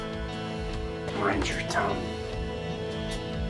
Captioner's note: voiceover